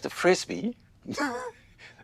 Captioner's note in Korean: 웃음